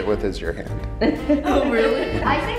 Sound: laughing

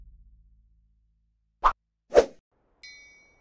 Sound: whip whoop

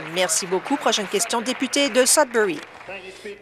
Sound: applause

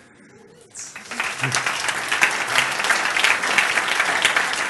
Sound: applause

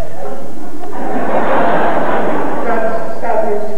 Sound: laughter

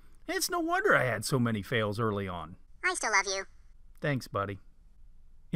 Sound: man's voice

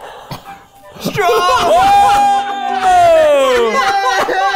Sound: cheering

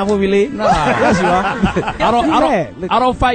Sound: all laugh

